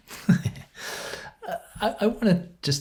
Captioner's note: laugh